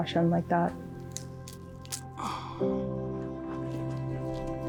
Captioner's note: pod cracking